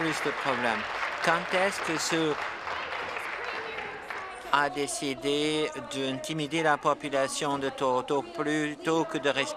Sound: applause

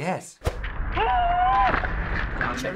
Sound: screams

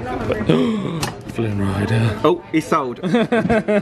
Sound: gasps; laughs

